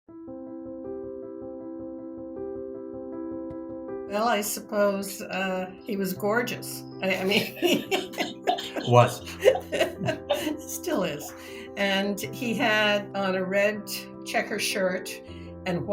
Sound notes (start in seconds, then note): 1.4 gentle upbeat music; 7.1 laughs; 10.4 laughing